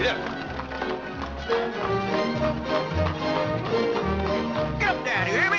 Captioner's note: hooves trotting